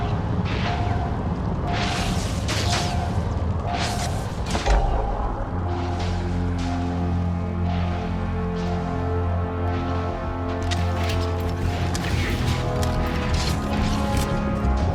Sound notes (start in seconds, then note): 0.2 alarm blaring; 4.6 scanner beeping; 6.2 somber music